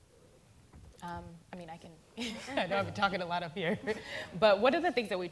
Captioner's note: laughter